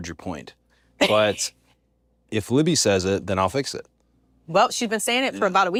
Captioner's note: laugh